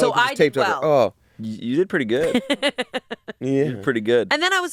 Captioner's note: laughs